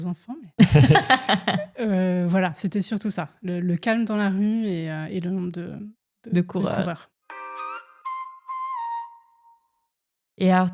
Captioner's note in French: rires